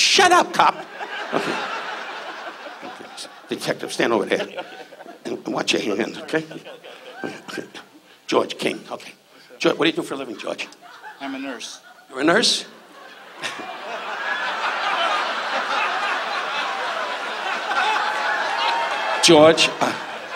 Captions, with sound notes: Shut up, cop. Detective, stand over there. - Okay. (laughs) - And watch your hand, okay? - Okay, okay, okay. - George King, okay. What do you do for a living, George? - I'm a nurse. - You're a nurse? (audience laughs) George.